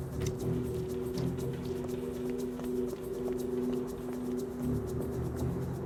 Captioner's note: suspenseful music continues; footsteps tapping